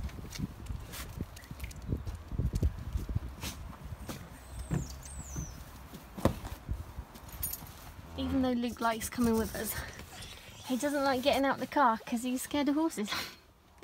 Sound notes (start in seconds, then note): 0.6 crunch of gravel; 7.2 keys jingle